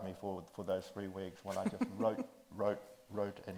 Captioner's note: chuckles